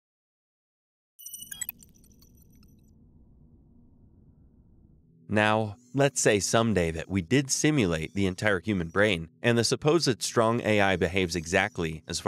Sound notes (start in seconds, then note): 1.2 futuristic melodious beeps